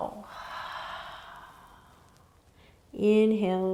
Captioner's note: exhaling